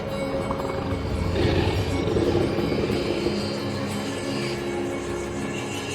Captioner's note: creature growling